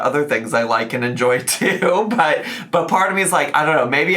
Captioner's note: chuckles